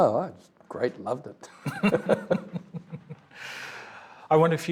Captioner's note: both chuckling